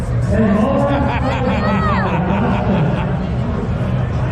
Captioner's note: laughing